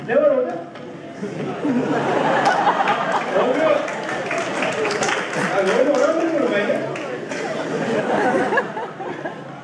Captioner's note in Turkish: Alkış sesleri